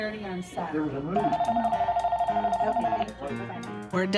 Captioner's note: soft background chatter; phone ringing